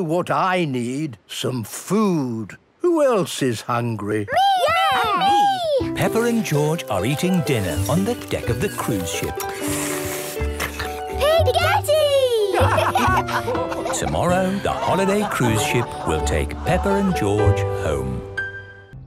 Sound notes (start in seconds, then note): 10.1 slurping; 12.5 all laugh